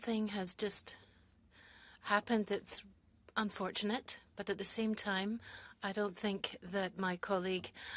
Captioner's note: speaking French